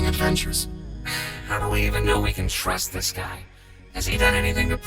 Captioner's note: sighs